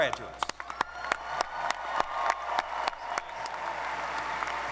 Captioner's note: audience applauding